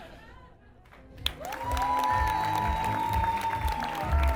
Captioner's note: audience Applauds